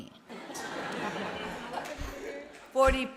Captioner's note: audience laughing